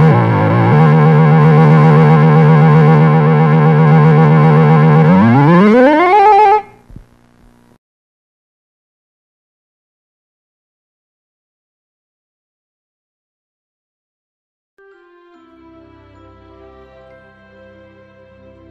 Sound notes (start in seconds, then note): 9.4 silence; 14.8 relaxing music plays to the tune